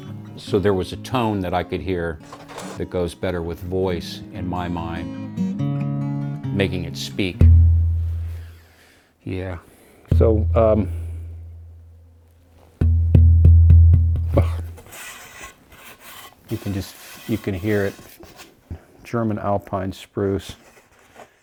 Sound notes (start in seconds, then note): 7.4 hollow thud; 12.6 hollow thuds